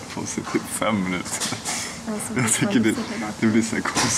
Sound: mubeling something

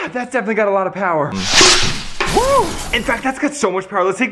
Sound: whooshing and crashing

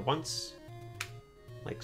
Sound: D-Pad clicks

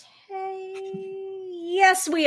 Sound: gasps; chuckles

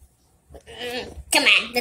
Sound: magenta grunts

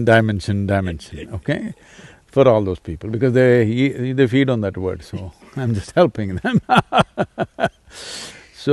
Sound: laughs

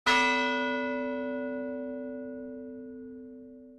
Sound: bell ringing

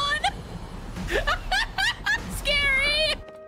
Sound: laughter

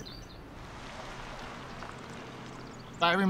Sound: trucks driving

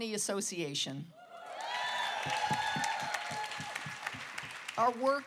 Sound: applause

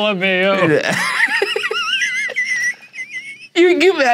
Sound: laughing

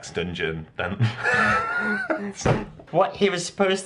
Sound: laughter

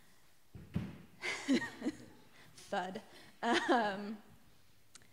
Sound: laughter

